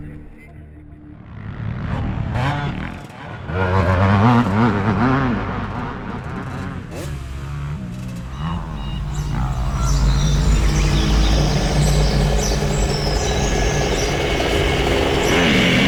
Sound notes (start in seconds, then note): 2.6 ATV engines revving; 8.2 birds chirping; 9.1 ATV engines revving